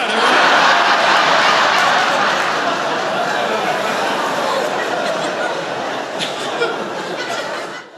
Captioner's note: laughter